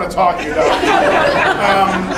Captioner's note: laughing